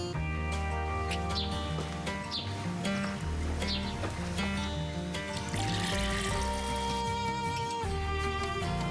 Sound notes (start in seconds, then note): 4.7 birds chirping; 6.8 water pouring